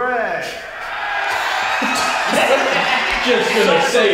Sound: crowd cheering

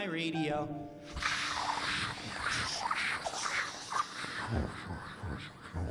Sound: imitates radio static

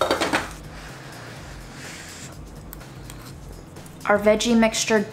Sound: lid rattling; lid thudding; air swooshing

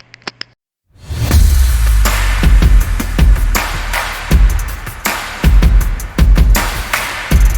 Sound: applause

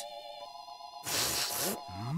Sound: sniffing

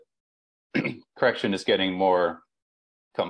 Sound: clears throat

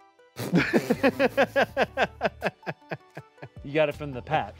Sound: both laugh

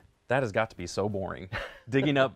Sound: laughter

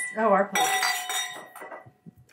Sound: glasses clink

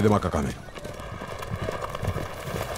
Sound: hooves clopping

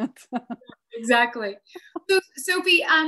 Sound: laughs

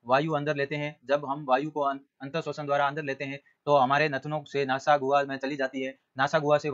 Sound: breath

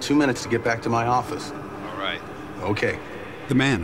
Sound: on phone

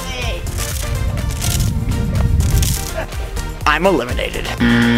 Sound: water squirting; buzzer ringing

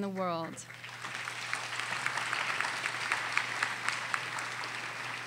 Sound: audience applauding

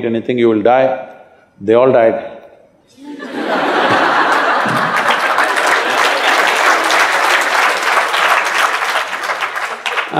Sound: laughs & Applauds

